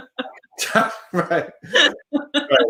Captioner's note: laughs